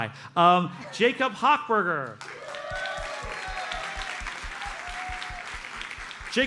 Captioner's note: audience cheers and applauds